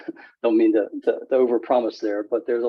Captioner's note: laughs